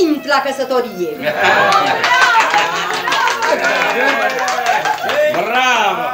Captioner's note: sounds of applause and cheer